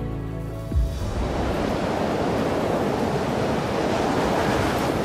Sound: wind howling

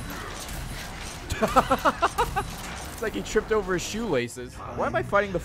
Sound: laughs

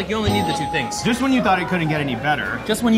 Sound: bell dings

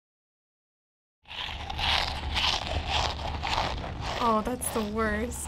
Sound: obnoxious munching

